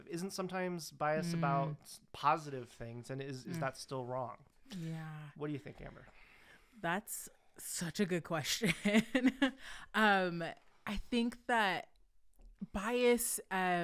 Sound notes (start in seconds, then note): 9.2 chuckling